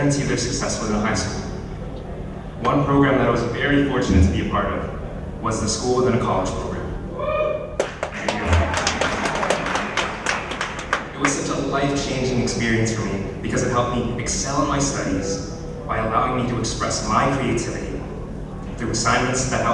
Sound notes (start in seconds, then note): 7.1 cheers; 7.8 applause